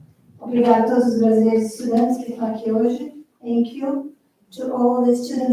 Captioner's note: foreign language